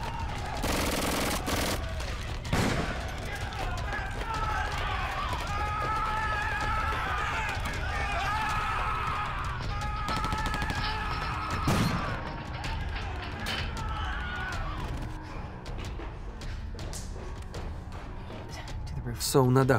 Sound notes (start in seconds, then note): 0.3 gunfire; 3.5 crowd shouting; 13.4 screaming